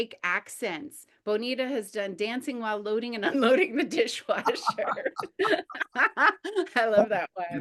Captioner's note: group laughter